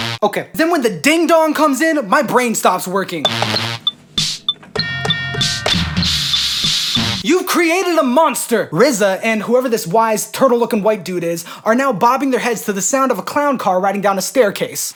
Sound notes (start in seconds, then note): 4.8 ding-Dong Sound Playing